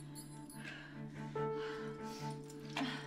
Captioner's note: tense orchestral music; Mabel pants